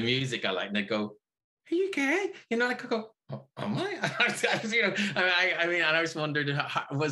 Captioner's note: laughs